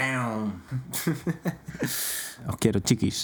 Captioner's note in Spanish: ríe